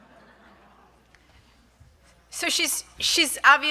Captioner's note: audience chuckling